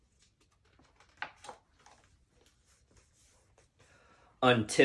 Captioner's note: page turning